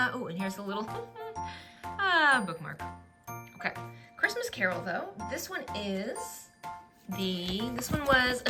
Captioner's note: laughs and sighs